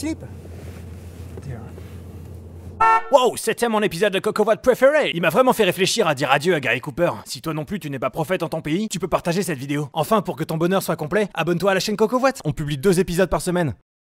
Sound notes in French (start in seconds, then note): 2.7 voix off avec l'accent anglais